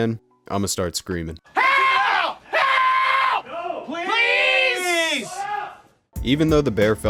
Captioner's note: faks scream for help